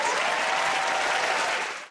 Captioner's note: cheers and applause